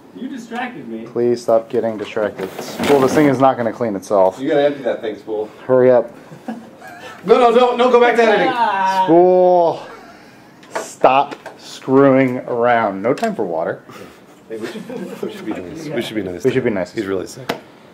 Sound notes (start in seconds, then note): 6.2 confused laugh; 6.2 very confused laugh